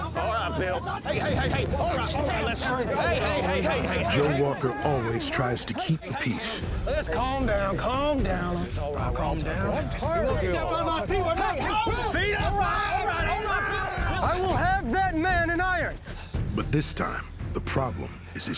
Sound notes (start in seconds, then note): 10.2 men yelling